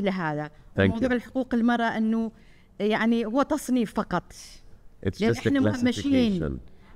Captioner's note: speaking foreign language